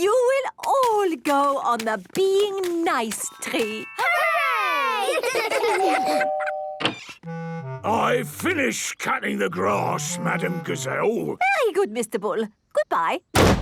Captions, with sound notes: You will all go on the 'Being Nice' tree! - Hooray! - (doorbell rings) - I've finished cutting the grass, Madam Gazelle! - Very good, Mr. Bull. Goodbye!